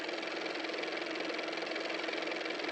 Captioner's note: car motor